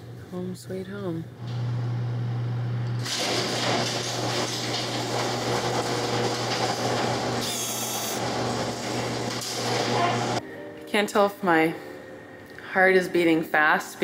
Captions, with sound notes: - Home sweet home. (door creaks) Can't tell if my heart is beating fast